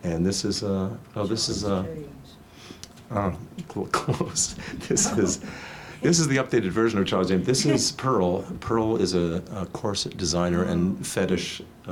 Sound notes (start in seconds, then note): 3.6 laughs